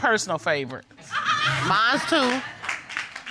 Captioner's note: audience laughing